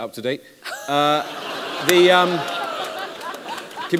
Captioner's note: laughter